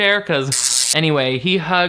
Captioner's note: electricity zapping